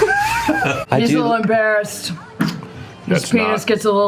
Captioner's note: drunkenly